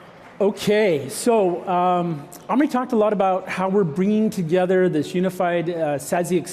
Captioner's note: applause